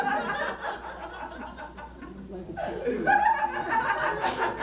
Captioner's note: laughter